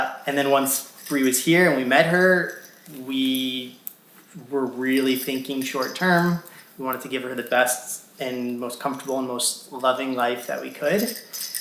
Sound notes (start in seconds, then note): none